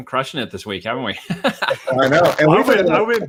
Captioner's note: laughs